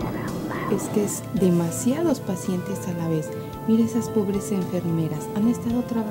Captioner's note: female doctor speaking in Spanish